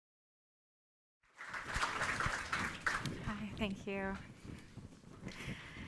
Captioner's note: applause